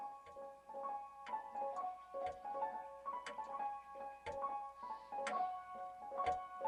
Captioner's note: clock ticking